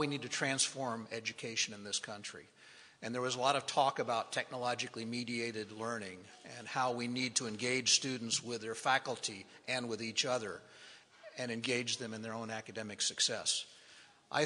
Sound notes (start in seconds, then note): none